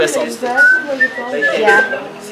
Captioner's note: whistling